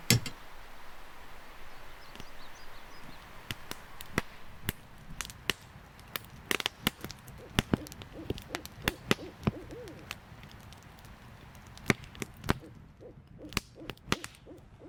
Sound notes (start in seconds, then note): 4.9 fire crackling; 8.8 owl hooting